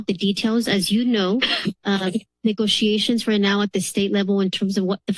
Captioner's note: coughs